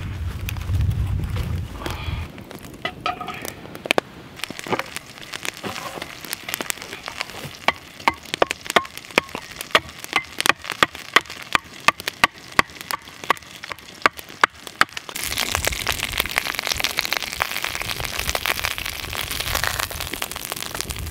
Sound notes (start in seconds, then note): 0.3 fire crackling; 8.0 hammering; 15.0 grease splattering